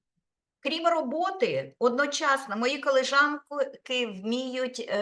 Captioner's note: speaking Ukrainian